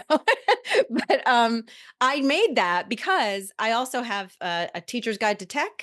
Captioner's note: chuckles